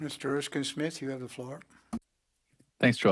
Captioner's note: speaking French